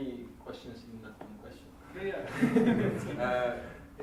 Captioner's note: laughter